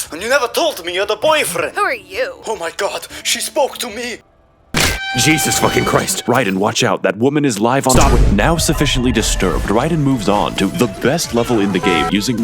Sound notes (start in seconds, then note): 4.8 snap